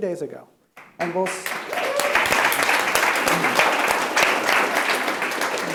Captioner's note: audience applauds